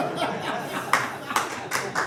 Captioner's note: audience laughing